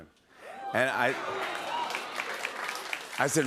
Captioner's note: applause